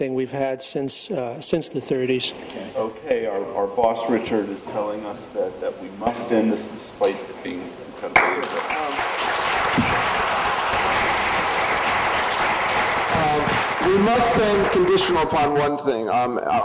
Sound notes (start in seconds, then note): 8.2 applause